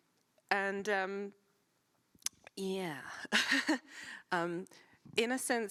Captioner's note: laughs